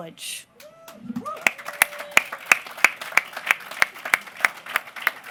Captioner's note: applause